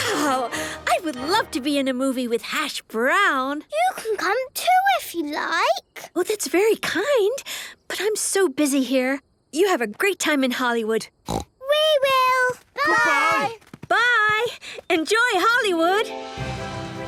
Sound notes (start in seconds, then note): 11.2 snort